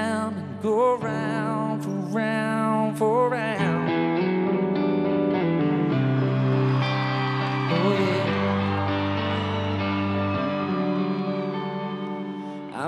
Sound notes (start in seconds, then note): 5.3 audience cheers